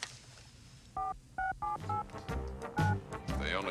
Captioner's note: beeping